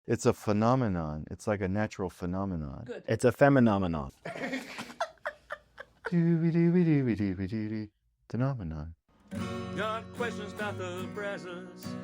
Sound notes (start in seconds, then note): 4.2 laughter